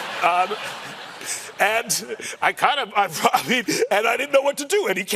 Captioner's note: laughter